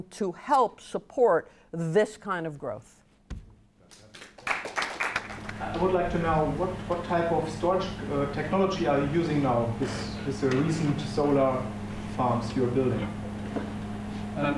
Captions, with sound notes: to help support this kind of growth. (audience applauds) - I'd like to know what type of storage technology are you using now? Is there a reason to solar farms you're building?